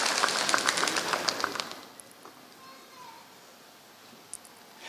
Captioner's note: applause